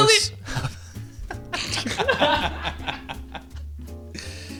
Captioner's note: laughing